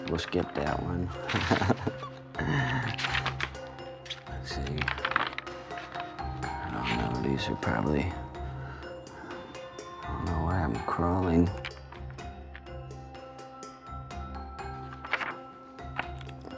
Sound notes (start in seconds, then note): 0.1 chuckles